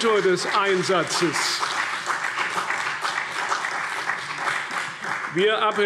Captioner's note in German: Beifall CDU und BÜNDNIS 90/DIE GRÜNEN